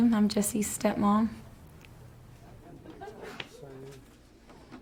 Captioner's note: chatter